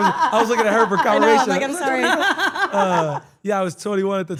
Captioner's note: laugh